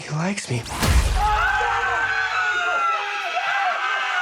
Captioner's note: all screaming